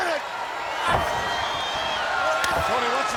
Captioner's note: audience cheering